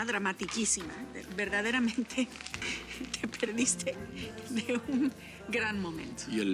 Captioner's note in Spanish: Riendo